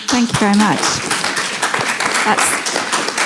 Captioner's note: audience clapping